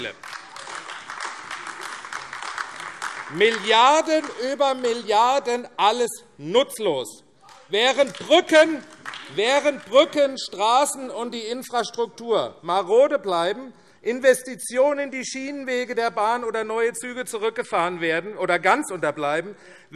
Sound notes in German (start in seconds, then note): 7.4 Beifall AfD